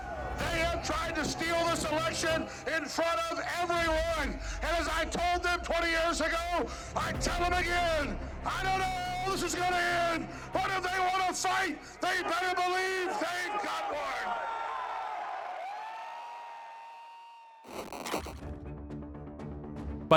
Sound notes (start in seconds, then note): 13.0 crowd cheers; 18.2 dramatic music